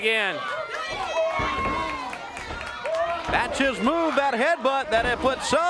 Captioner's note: crowd cheering